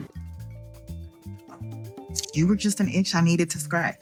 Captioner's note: gasping